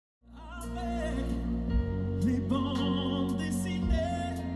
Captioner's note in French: Chant